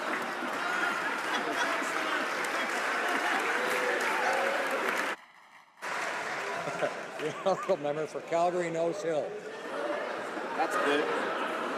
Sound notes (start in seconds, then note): 1.8 laughing